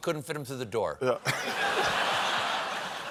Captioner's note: laughter